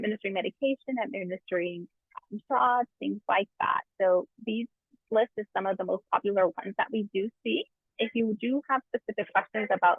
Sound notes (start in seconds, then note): 2.0 mic squelches